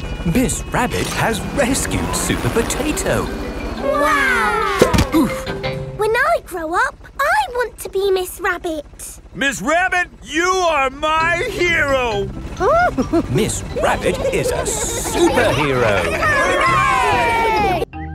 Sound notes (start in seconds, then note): 4.1 crowd; 12.5 giggles